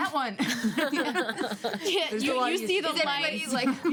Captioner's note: women laugh